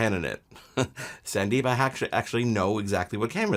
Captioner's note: chuckles